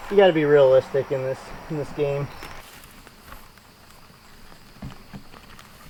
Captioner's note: crackling while walking